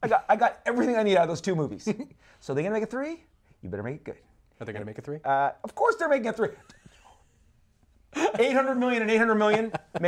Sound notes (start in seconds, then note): 8.1 laughs